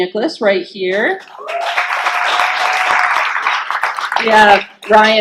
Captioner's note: clapping and cheering